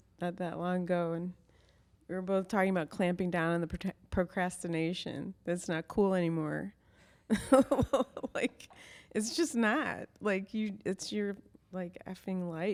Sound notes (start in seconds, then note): 7.5 laughs